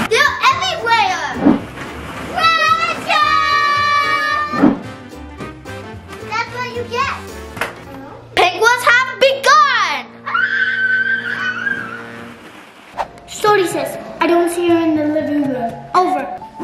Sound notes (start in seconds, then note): 10.2 screaming